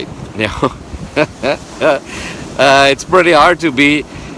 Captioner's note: laughs